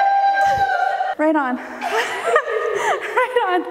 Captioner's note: laughing